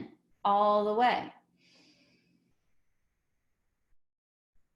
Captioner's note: inhales